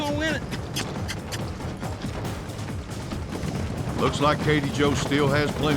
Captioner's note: hoofbeats